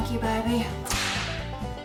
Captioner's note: whip cracks